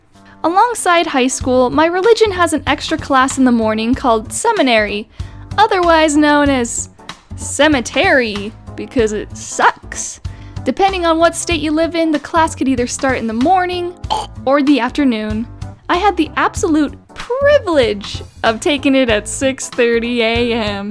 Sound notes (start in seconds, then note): 14.1 cough of sickness